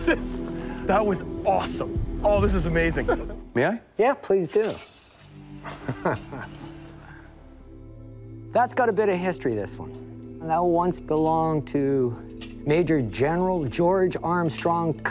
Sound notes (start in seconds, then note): 5.6 laughing